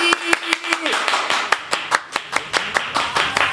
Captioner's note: applause